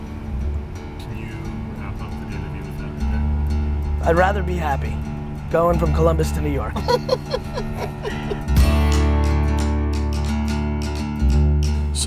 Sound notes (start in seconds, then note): 6.7 laughing; 8.7 upbeat music